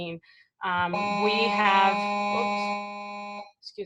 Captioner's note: electronic interference